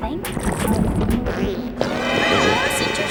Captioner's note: growling